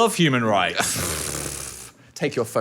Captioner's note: blows raspberries